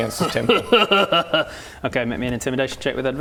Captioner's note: troll laughter